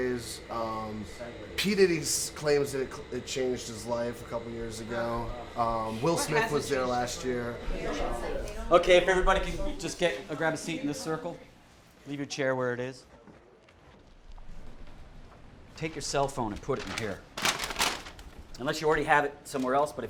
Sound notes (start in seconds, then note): 16.5 bag rustles